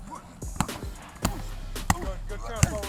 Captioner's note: grunting